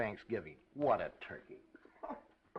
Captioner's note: laughs